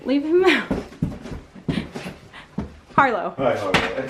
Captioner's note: laughs